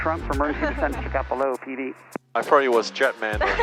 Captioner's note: laughing